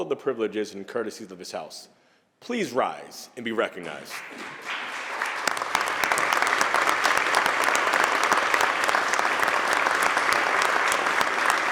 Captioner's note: applause